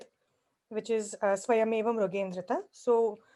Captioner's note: speaks foreign language